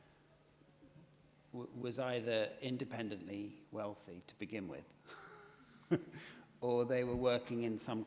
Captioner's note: chuckles